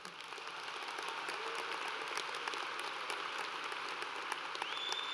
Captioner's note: audience applauds